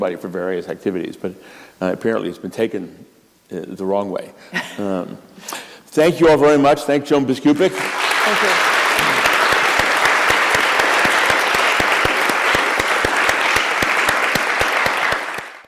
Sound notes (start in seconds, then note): 7.6 applause